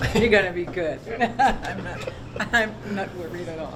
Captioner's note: laughs